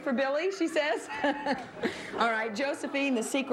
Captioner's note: laughs